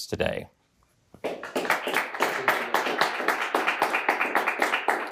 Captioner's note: attendees clap